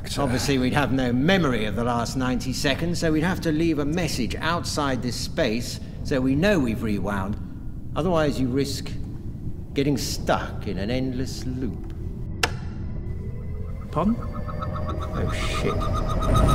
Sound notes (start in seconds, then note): 12.4 switch clicks